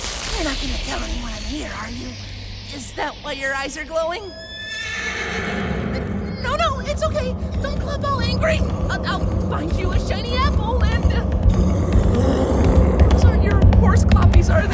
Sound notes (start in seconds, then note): 4.3 A threatening neigh rings out as the clops of a horse-like creature approach